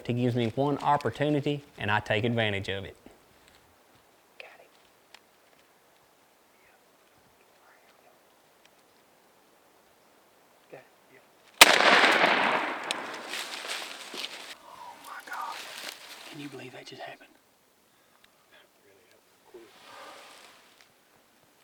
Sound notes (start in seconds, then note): 5.2 whispered; 11.6 gunshot; 15.3 whispered